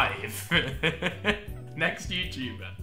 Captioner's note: laughing